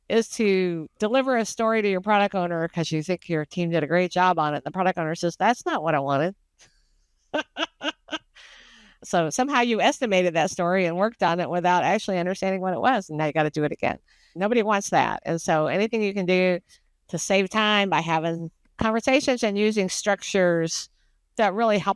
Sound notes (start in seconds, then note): 7.3 laughs